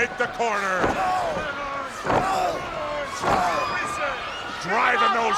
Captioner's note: wrestlers grunting; blows thudding